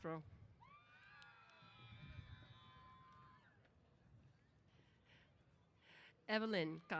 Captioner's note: cheers